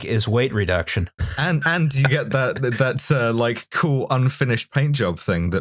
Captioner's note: laughter